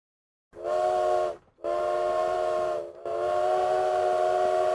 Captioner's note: train whistling